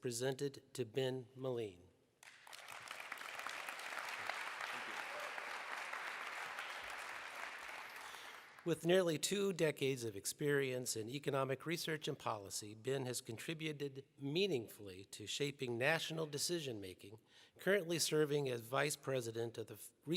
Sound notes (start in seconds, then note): 5.5 applause